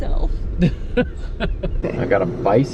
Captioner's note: laughter